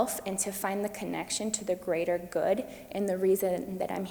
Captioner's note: none